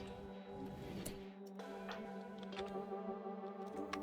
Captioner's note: clicking